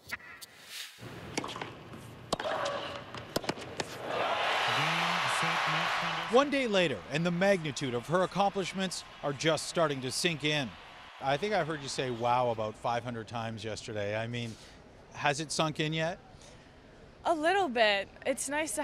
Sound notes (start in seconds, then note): 9.3 cheering